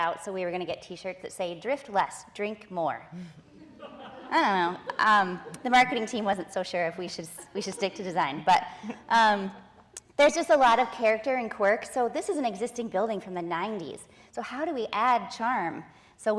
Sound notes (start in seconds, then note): 3.6 audience laughing